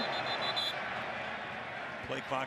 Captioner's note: whistle